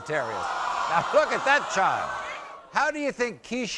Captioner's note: crowd gasping